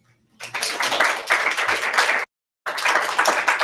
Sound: applause

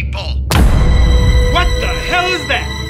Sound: pizza cutter thuds

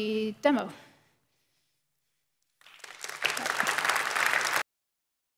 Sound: applause

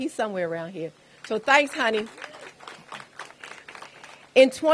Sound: applause

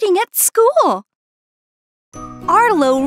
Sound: silence as Arlo realizes what he's missing out on!

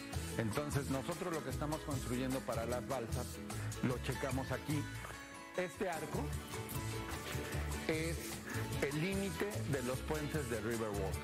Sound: speaking spanish

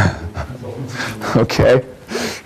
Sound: laughs

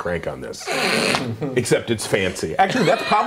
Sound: laughing

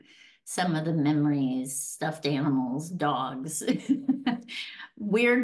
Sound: chuckles

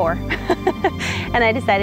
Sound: laughs

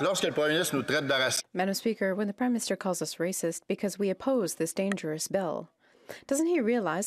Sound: speaking French

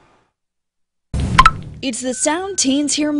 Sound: snapchat sound

